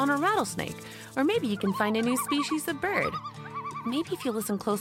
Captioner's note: rattle sound; bird sound